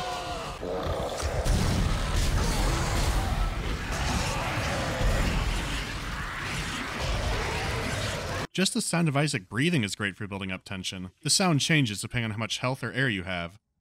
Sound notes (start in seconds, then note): 0.6 angry slurping; 5.7 irratic slurping